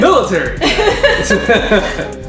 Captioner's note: laughter